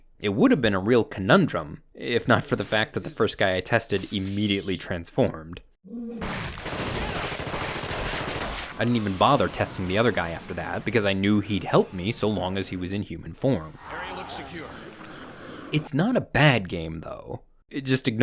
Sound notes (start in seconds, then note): 6.2 gun shooting